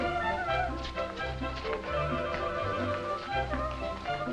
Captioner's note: Pandora humming